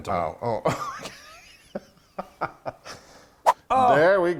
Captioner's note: both laughing